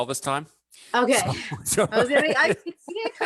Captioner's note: laughs